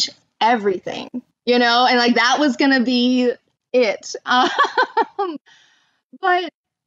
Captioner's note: laughter